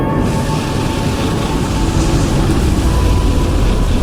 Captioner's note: electrical sounds